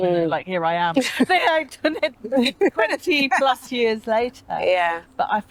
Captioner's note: laughter